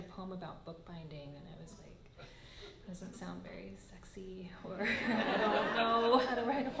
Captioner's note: laughter